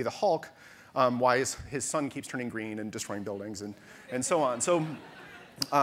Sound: audience laughter

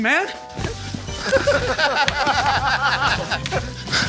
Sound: laughing

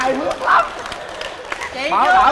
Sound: applause

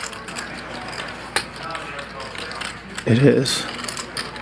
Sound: players murmuring in background

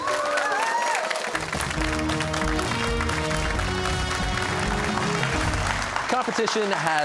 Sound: cheers and applause

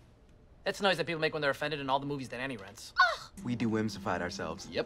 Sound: ANNIE scoffs

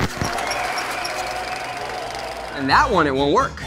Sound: audience cheer

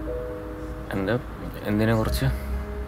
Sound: stammering

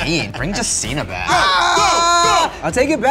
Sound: screams

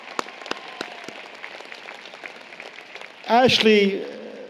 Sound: applause, Cheering

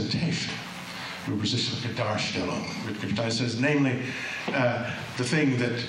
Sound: german

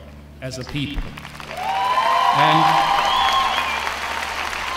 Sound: cheering

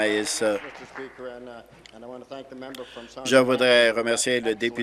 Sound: applause

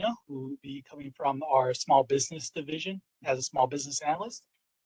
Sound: none

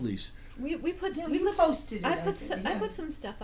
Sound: voiceover

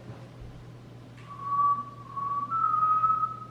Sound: whistles

